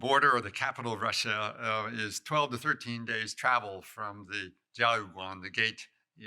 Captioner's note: non-english